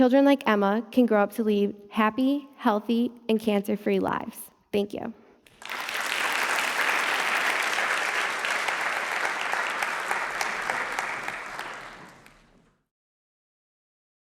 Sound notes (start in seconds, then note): 5.4 clapping